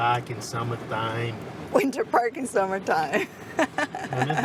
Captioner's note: laughs